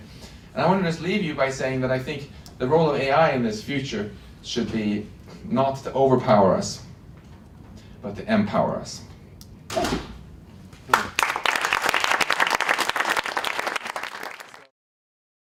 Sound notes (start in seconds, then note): 10.8 applause